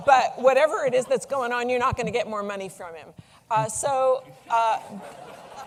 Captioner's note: laughter